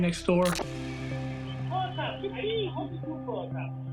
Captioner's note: indistinct chatter